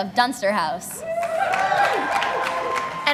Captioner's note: applause